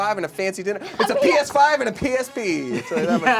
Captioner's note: laughing